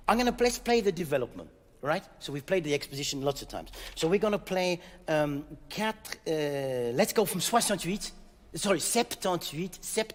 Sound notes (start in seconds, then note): 7.5 speaking in French